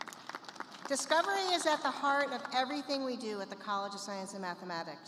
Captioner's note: applause